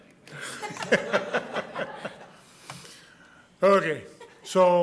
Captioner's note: soft laughter